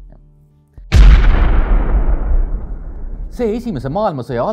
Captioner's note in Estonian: plahvatus